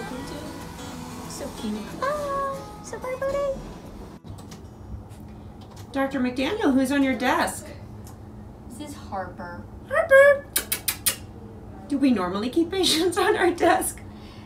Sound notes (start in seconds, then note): 10.4 kissing sound